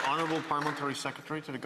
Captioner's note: applause